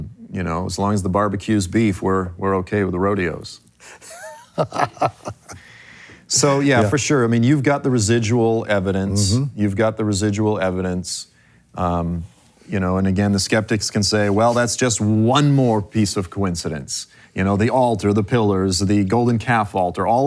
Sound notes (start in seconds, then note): 3.8 laughs